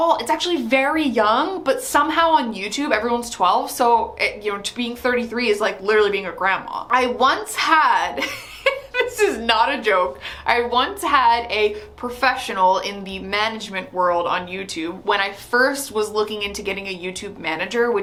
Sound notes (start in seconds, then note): 8.2 laughs